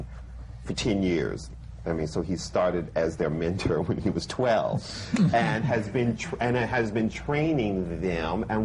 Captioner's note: laughs